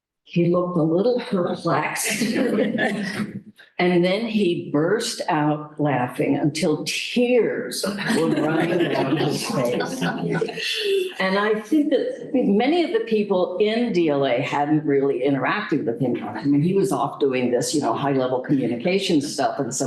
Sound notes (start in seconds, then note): 9.9 laughter